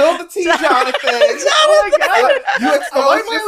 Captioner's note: laughs